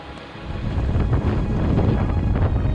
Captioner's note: wind blowing hard